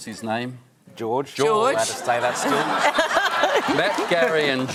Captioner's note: laughter